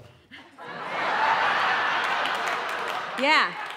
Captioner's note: audience laughing